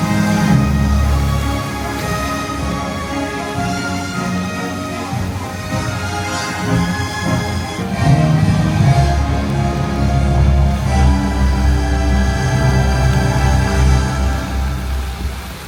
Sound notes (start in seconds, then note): 1.0 dramatic music continues; 1.0 water splashing continues; 10.4 dramatic music continues; 10.4 water splashing continues